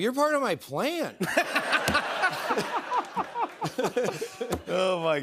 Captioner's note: laughter